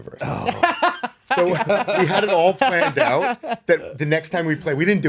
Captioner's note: laughing